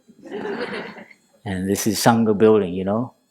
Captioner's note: laughter